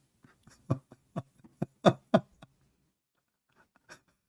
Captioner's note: laughing